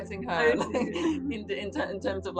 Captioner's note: chuckles